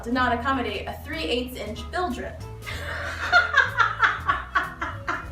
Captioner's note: laughs